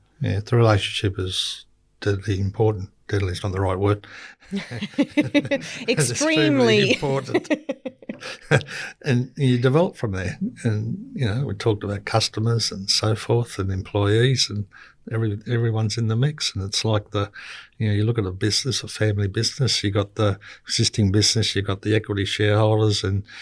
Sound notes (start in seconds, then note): 4.5 group laughing; 7.3 both laughing